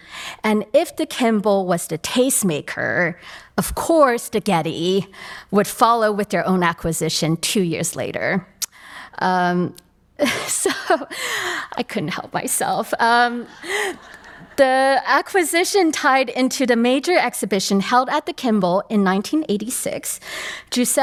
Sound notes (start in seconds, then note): 10.8 laughs; 13.8 attendees laughs